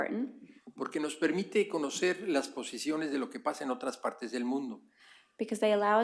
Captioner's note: speaking spanish